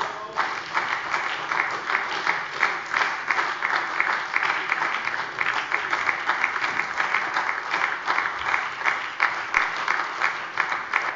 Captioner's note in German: Anhaltender Beifall bei der SPD